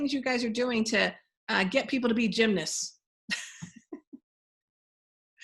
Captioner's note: chuckling